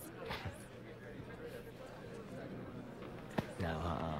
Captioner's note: chuckles